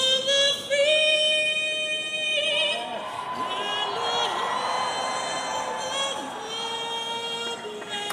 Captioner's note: cheers